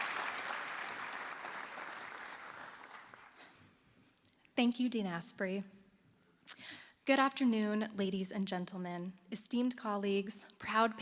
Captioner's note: applause